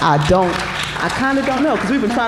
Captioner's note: applause